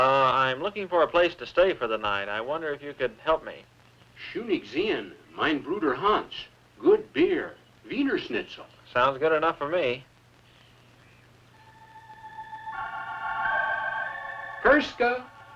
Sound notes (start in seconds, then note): 4.2 speaking german; 7.3 non-english; 11.5 creepy organ music